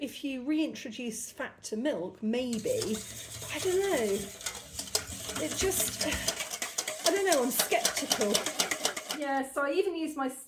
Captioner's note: whisking